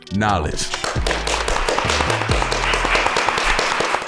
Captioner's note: clapping